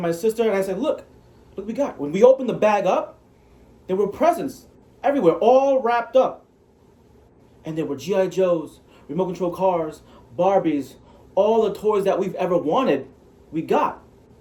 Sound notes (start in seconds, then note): none